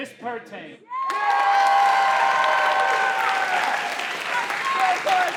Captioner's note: audience cheering